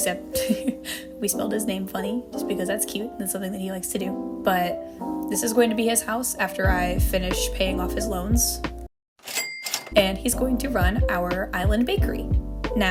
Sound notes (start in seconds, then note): 0.4 laughter; 9.2 cash register sound effect